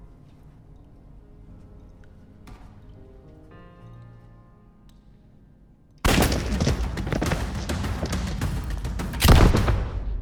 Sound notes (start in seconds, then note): 6.0 gunfire echoing